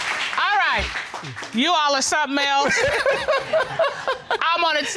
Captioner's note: both laugh